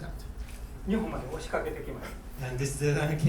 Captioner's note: speaking in foreign language